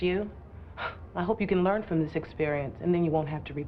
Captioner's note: scoffs